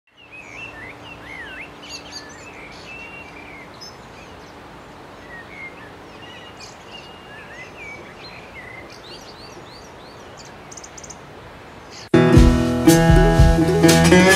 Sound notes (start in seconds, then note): 2.0 birds